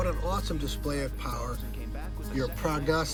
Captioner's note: radio announcer discussing comeback